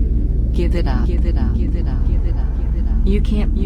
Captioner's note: voice echoing